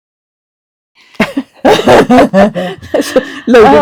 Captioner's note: laughter